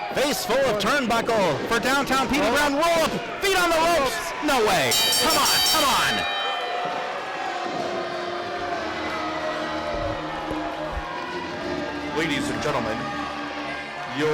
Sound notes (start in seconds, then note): 4.8 bell rings; 7.9 crowd jeering